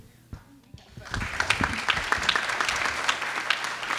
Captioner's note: clapping